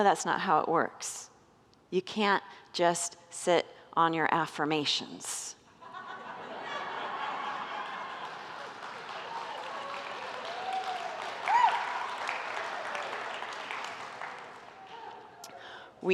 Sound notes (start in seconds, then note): 6.4 congregants laugh, whoop and applaud